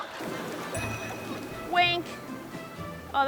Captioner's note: ting!